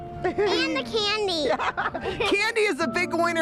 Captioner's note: laughs